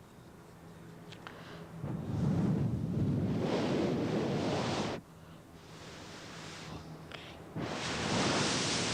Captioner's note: Shri Mataji blows into the micro